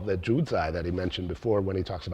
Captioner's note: speaks in foreign language